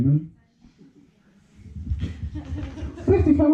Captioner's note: solitary laughter